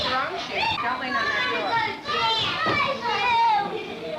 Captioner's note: children playing loudly